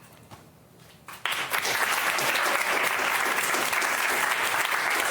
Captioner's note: applause